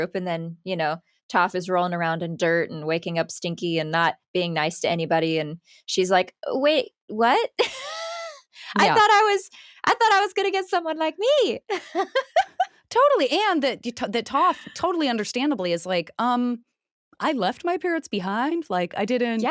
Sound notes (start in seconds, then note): 7.9 laughs; 11.7 laughs